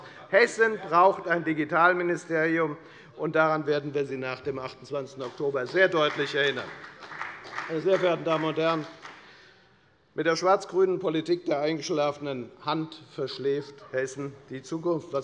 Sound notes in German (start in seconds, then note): 5.2 Beifall bei der FDP